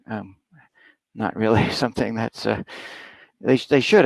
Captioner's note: laughing